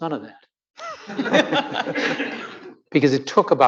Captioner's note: audience laughing